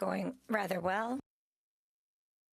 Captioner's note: speaking French